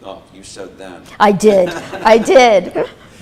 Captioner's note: laughs